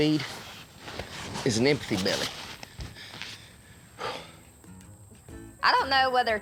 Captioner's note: exhales